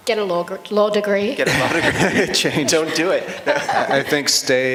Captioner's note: laughter